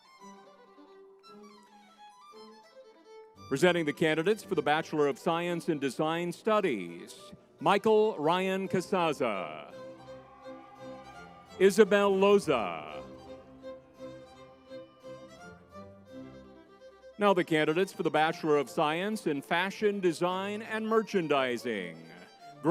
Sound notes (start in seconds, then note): 0.2 lively music; 10.3 crowd cheering; 10.3 lively music; 14.4 lively music